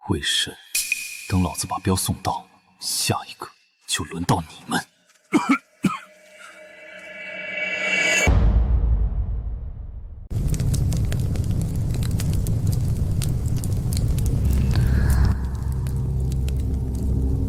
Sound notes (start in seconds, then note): 5.2 cough cough